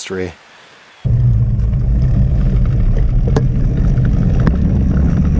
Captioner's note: engine revving